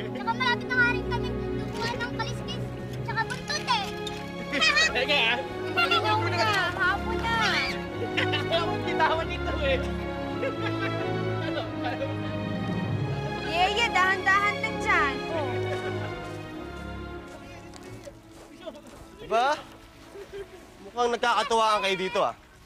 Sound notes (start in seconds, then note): 5.6 laughter